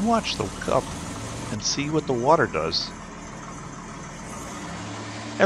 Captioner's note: engine Noise